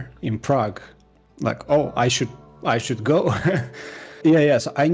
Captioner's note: laughs